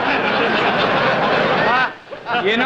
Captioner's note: group laughs